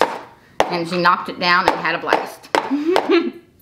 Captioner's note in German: lacht